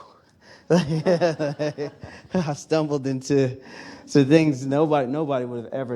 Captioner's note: laughs